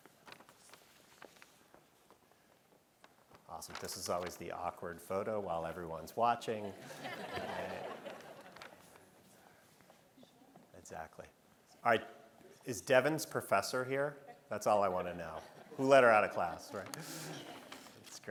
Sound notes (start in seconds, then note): 6.7 audience laughing